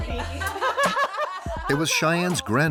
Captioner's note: laughing